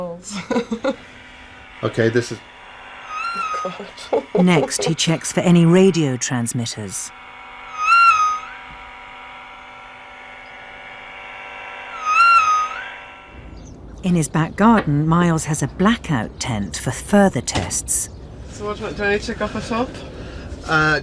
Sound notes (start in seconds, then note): 3.4 electronic whine; 4.9 voiceover; 7.7 electronic whine; 12.0 electronic whine; 18.7 voiceover